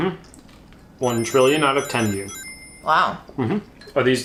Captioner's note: chimes tinkling